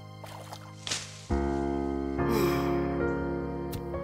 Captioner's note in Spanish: suspira